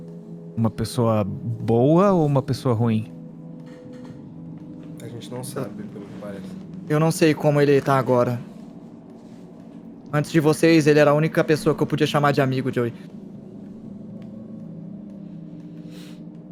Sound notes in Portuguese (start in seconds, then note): none